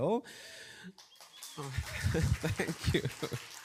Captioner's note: cheers and applause